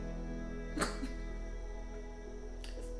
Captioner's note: somber music; sobs; somber music continues